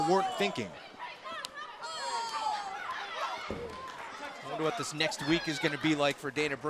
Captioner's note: crowd chatter